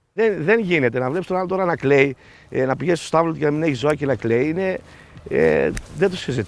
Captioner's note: speaking in foreign language